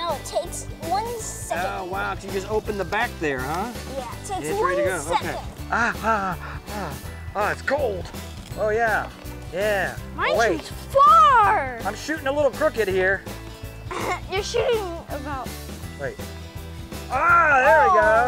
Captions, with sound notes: - No, it takes one second. - Oh, wow, so you just open the back there, huh? - Yeah, it takes one second. - (gasping) It's cold. Oh, yeah, yeah. - Mine shoots far. - I'm shooting a little crooked here. - (laughs) You're shooting. - Wait, ah, there we go.